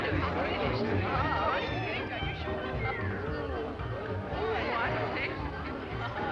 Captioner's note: people murmuring; cheerful jazz music